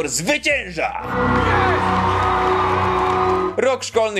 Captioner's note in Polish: okrzyki